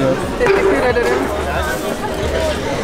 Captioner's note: Turkish